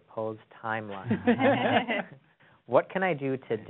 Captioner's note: laughs